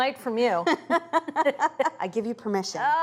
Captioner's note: both laughing